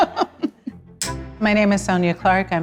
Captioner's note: laughs; clapperboard claps